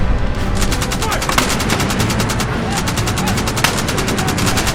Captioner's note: gunfire rattling